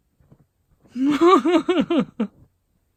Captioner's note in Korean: 웃음